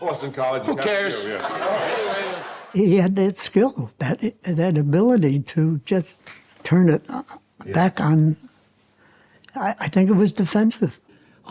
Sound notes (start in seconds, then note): 0.8 audience laughs; 6.2 hands smack